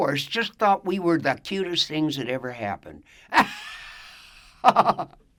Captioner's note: laughs